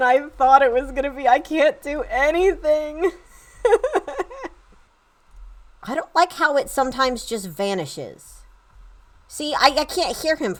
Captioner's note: laughter